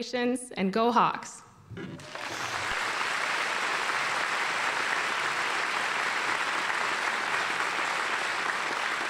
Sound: applause

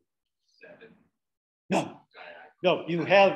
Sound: speaking away from the mic

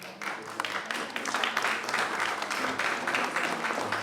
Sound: audience applauds

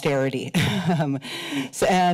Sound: chuckles

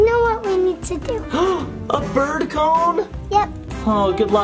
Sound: gasps

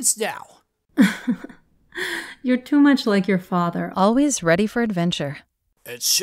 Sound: chuckles

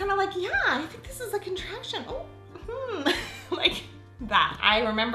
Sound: laughs

